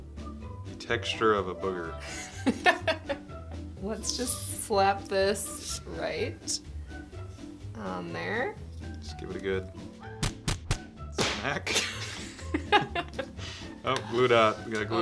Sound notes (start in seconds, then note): 2.2 laughs; 11.2 cartoon hits